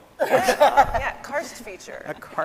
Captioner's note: all laughing